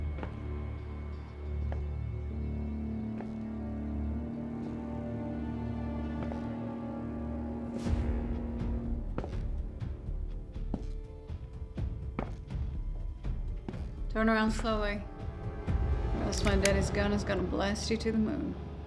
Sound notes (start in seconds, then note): 0.1 slow footsteps; 16.4 gun clicks